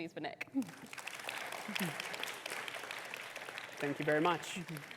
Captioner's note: audience applauds